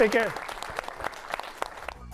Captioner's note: applause